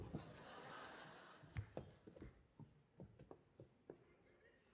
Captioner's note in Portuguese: audience laughing